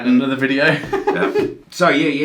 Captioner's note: laughs